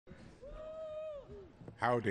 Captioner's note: cheers